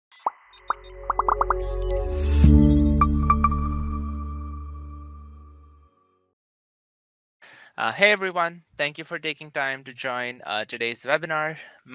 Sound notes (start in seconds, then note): 0.2 robot beeps; 2.4 light music